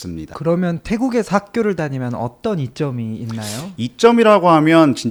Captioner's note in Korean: 콧방귀